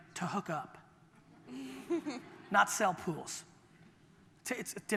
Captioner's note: audience laughter